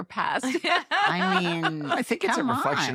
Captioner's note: laughter